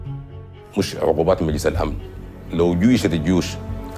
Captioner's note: speaking Arabic